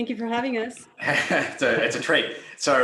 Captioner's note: chuckling